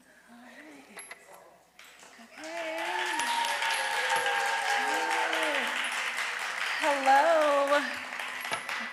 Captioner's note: audience applause